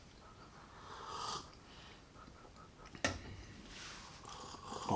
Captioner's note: sips tea